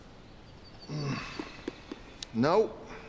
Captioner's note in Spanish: gruñidos